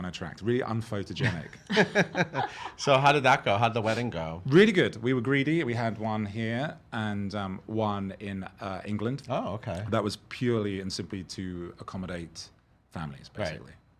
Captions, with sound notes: - Yeah, really unattractive. Really un-photogenic. (laughing) - So, how did that go? How did the wedding go? - Really good. We were greedy. We had one here and one in England. - Oh, okay. - That was purely and simply to accommodate families, basically.